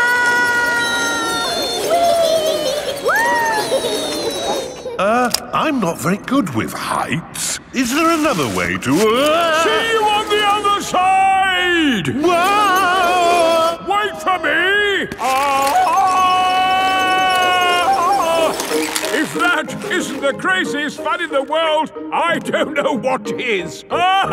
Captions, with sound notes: (ALL YELLING) Er, I'm not very good with heights. Is there another way to... See you on the other side! (YELLING) Wait for me! (YELLING) If that isn't the craziest fun in the world, I don't know what is!